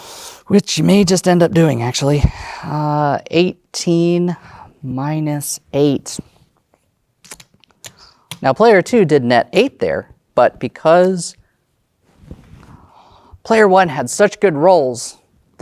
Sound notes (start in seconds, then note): 7.2 tokens clattering